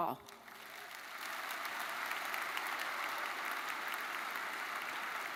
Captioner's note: audience applauds